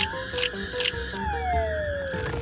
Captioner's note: camera shutter snapping